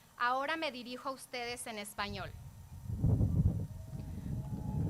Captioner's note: speaking foreign language